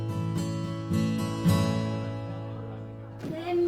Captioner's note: group chattering